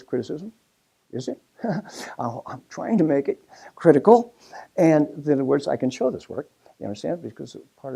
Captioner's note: laugh